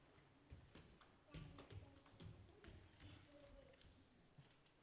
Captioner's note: footsteps approaching